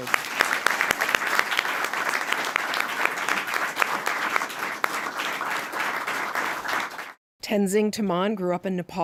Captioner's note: applause